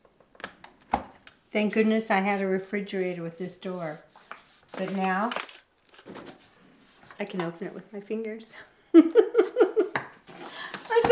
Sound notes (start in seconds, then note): 9.0 laughs